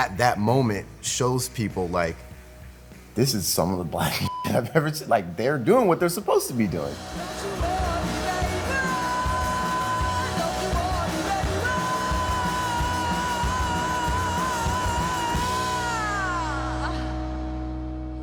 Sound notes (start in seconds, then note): 4.2 beep; 7.6 upbeat music